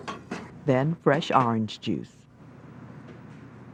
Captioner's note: voiceover